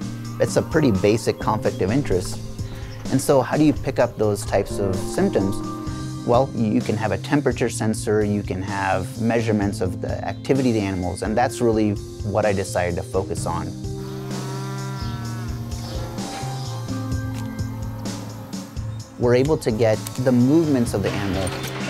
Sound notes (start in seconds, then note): 13.9 cow lowing